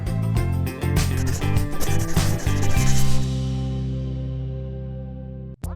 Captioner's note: upbeat music; pencil scribbling